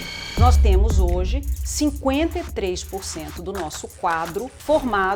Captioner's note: speaking Portuguese